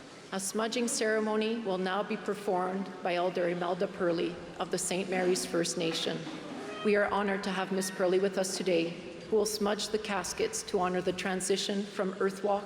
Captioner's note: speaking french